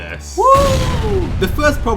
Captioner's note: explosion; bellow